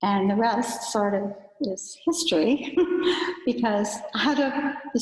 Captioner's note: giggles